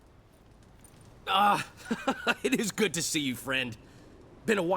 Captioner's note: laughs